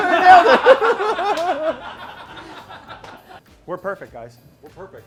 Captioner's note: all laughing